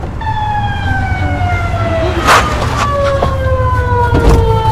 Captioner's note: traffic humming; siren wailing